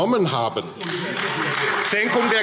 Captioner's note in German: Beifall AfD - Widerspruch CDU - Zurufe